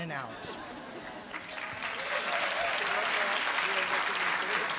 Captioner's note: applause